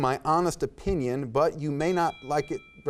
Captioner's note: timer dings